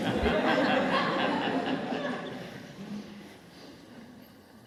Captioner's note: laughter